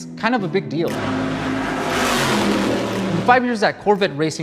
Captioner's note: engine revving